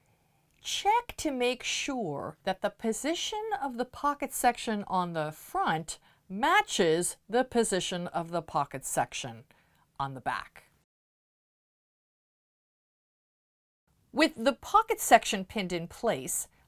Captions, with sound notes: check to make sure that the position of the pocket section on the front matches the position of the pocket section on the back. *No Sound Present* With the pocket section pinned in place,